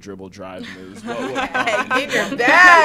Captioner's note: laughter